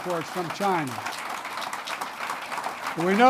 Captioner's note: applause